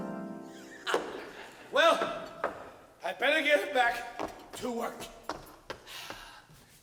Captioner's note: Frosch laughs